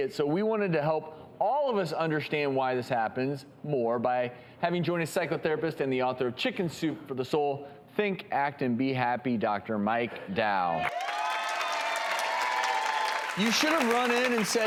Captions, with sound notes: so, we wanted to help all of us understand why this happens more by having join us, psychotherapist and the author of Chicken Soup for the Soul, Think, Act, and Be Happy, Doctor Mike Dow. (audience applauds) You should've run in and said,